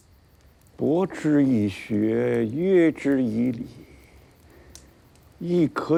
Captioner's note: hablan un idioma extranjero